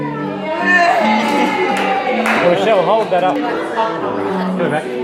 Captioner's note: cheers and clapping